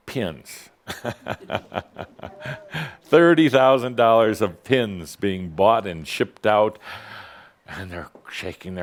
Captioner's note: Adamus chuckles